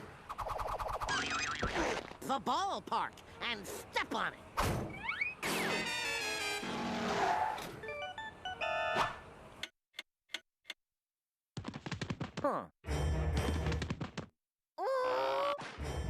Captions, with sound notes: THE BALLPARK, AND STEP ON IT. [clock ticking] HMM. [grunting]